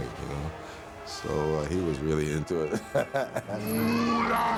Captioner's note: chuckles